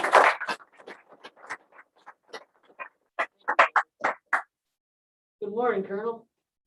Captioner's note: applause